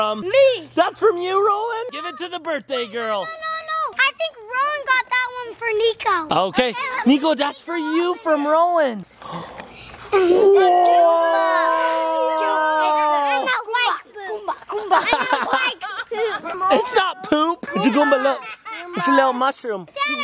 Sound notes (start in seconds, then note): 9.2 gasp; 14.7 dad laughs